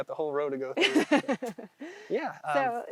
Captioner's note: laughs